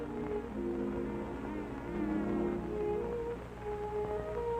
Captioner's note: buzzing